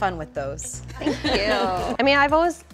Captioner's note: all laugh